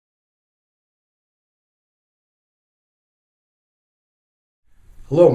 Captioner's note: silent